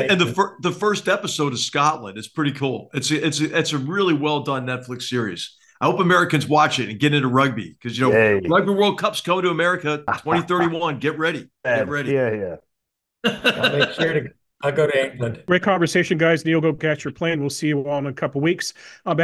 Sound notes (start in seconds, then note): 13.3 laugh